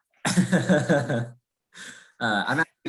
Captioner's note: laughs